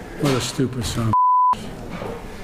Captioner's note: beep